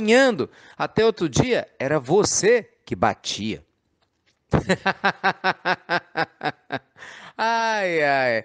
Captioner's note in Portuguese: Risos